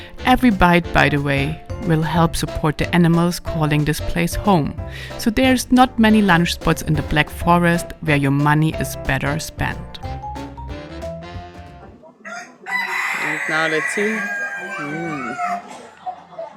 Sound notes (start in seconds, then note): 10.5 upbeat music; 12.2 rooster crowing